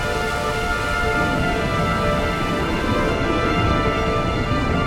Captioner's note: intense music; water burbling